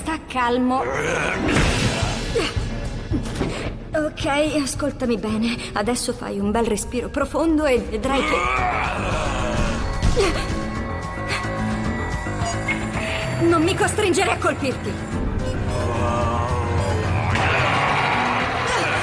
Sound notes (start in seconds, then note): 0.8 grunting; 8.2 barbaric roars; 10.1 gasps; 15.7 barbaric snarling